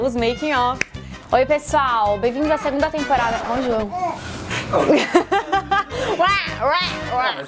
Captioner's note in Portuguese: risos